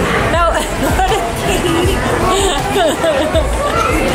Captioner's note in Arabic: يضحك